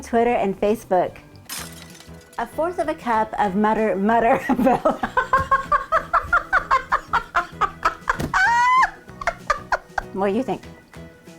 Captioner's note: laughing